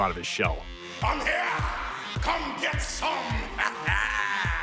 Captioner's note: laugh